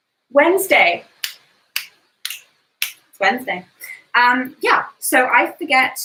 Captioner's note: finger snaps